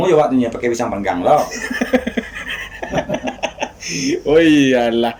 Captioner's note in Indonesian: tertawa